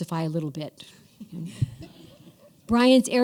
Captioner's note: laughter